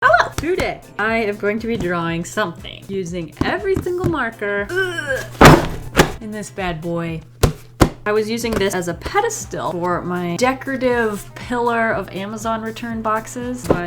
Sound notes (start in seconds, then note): 4.7 strained groan; 7.3 tap, tap